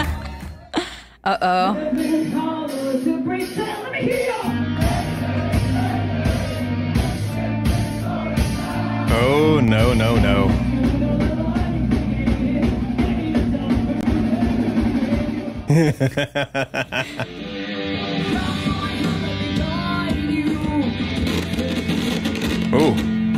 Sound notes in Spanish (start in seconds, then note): 15.6 risas